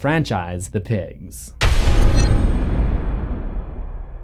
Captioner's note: thunder